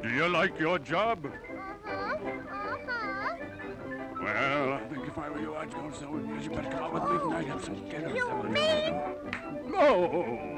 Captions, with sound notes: Do you like your job? Mm-hmm. Well... (Whispering) If I were you... Oh! You mean-- (Slap) No!